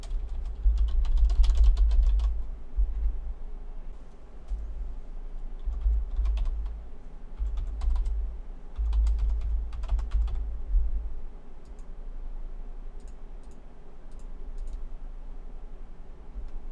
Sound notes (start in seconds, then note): 1.7 keystroke sounds and clicking